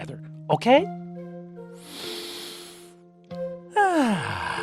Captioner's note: breathes deeply